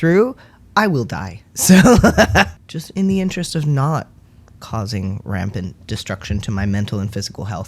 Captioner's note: laugh